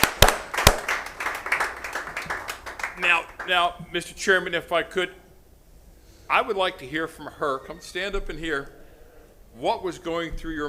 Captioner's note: applause